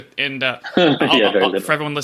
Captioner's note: laughing